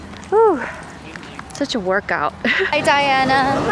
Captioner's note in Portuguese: risos